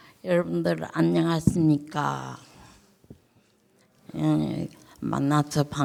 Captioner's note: speaking in foreign language